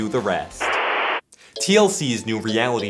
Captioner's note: static